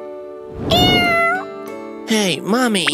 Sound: meows

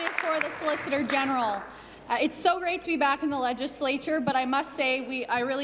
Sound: applause

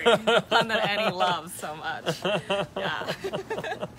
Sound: cheerful laughter

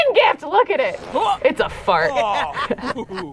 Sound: chuckles

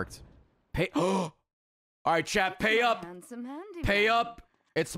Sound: gasps

